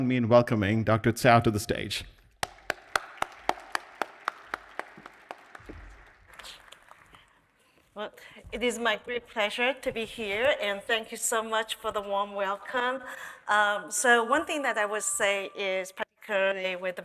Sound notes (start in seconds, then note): 2.4 audience applauding